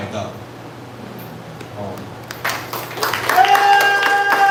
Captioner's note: applause